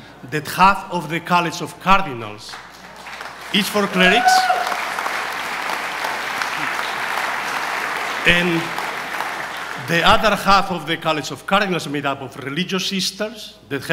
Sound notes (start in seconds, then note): 4.4 audience applauds and cheers